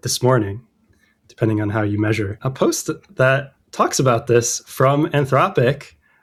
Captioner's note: uh